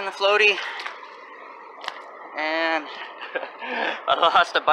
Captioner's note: chuckling